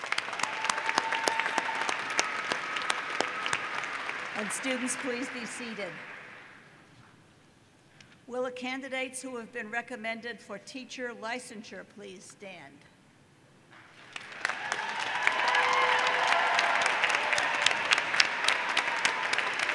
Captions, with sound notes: Would our University honors, scholars and leadership program as well as mortar board students please stand. >> [Applause] >>